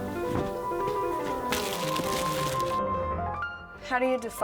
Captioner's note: bags rustle